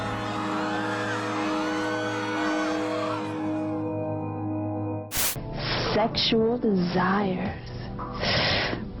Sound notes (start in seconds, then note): 5.1 static